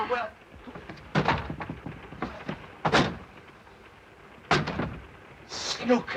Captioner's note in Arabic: طرق على الألواح